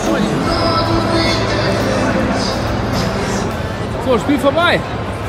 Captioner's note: Stadionlärm